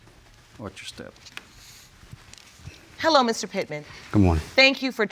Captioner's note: none